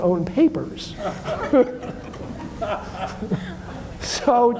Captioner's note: audience laughs